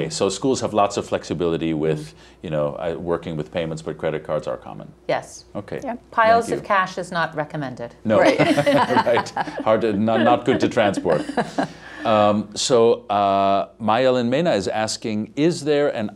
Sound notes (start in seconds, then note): 8.2 laughter; 10.9 laughter continues